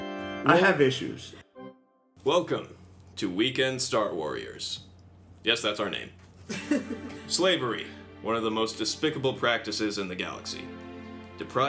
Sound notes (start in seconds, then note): 0.0 organ Chord; 6.4 Liliana giggles